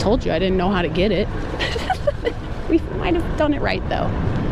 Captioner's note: giggling